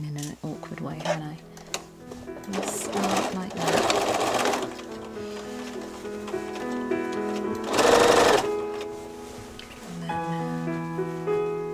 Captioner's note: machine whirring